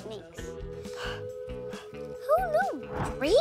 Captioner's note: Blueberry breathes deeply